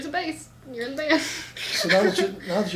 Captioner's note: laughs